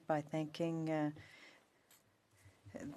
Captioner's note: speaking French